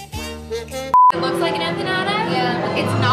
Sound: beep

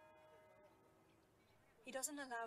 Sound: church bells ringing

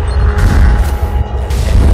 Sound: whoosh

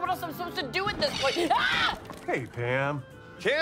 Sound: shrieks

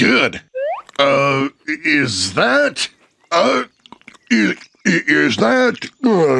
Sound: mouth full

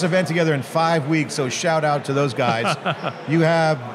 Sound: laughs

